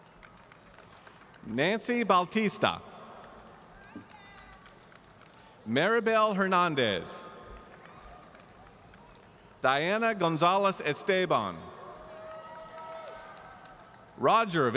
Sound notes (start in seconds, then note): 3.2 audience applauding; 12.0 audience cheering